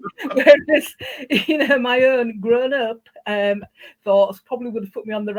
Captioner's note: laughing